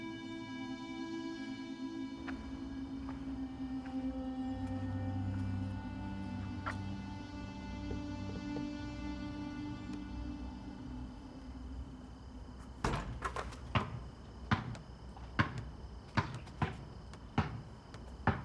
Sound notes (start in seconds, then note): 14.4 ball dribbling